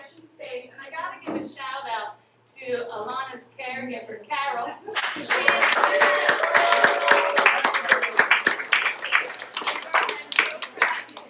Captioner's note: applause